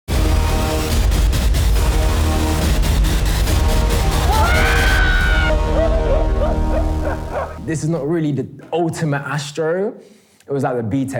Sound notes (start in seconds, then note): 0.1 high energy music; 3.9 screams; 6.3 laughs